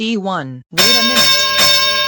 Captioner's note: boxing bell ringing